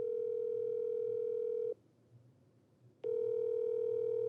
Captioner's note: phone beeping